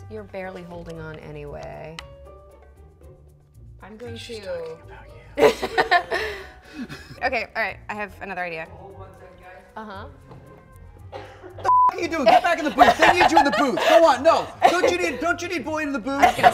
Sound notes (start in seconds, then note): 4.7 whispering; 5.4 laughter